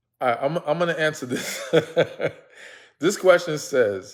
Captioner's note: laughs